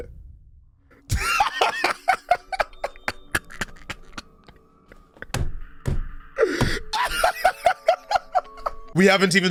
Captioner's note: laughing